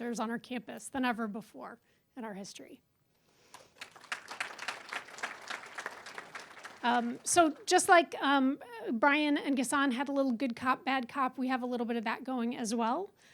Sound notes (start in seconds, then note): 3.5 applause